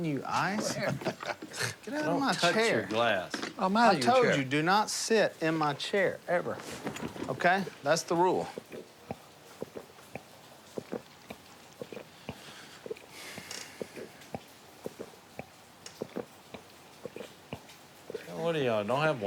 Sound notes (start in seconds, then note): 0.6 laughter; 8.0 gulping